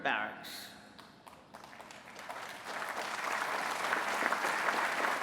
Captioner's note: applause